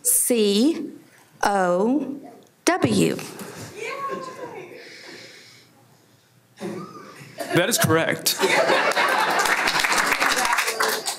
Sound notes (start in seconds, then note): 8.3 everyone laughs; 8.8 applause